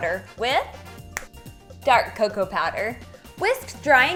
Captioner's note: snaps